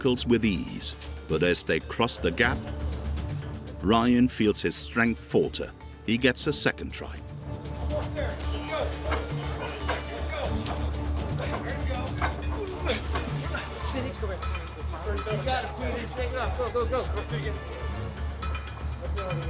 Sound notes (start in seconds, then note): 7.4 dramatic music; 12.6 groaning